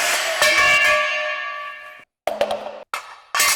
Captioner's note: saw cutting; metal clanking